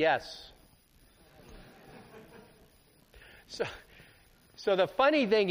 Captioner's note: laughter